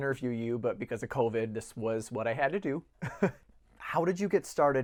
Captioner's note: laughter